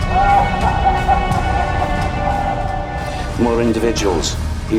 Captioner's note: man laughing